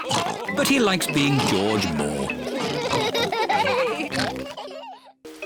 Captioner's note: all laugh